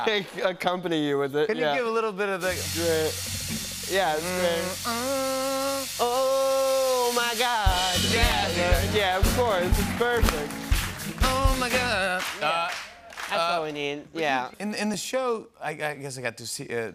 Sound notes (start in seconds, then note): 3.8 humming